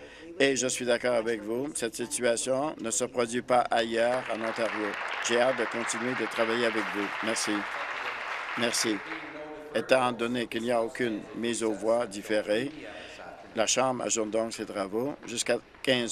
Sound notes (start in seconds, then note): 8.9 applause